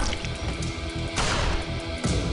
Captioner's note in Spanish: quejido